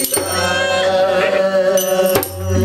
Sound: kid cries

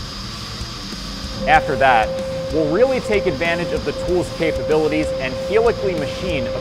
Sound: machining noises

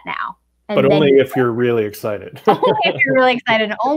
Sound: chuckles

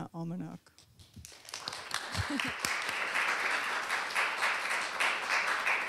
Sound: applause

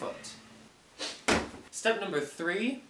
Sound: kicking bag

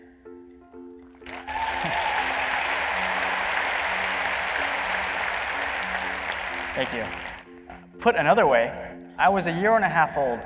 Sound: applause and cheers

